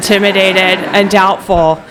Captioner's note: laughter